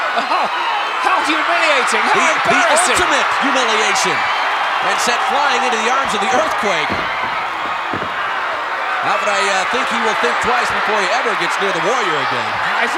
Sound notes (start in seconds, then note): 3.7 audience cheering; 7.5 audience cheering